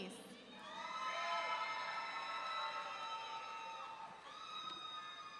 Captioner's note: audience cheering